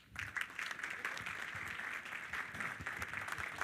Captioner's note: all applaud